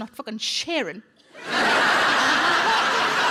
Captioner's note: audience laughing